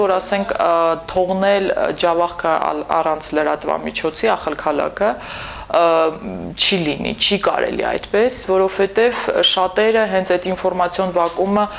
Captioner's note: in Armenian